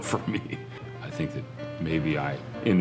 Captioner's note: chuckles